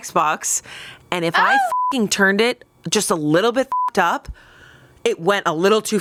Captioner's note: beep